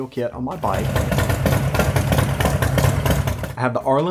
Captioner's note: idling